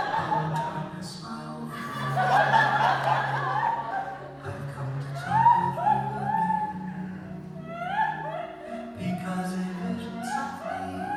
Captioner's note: audience laughs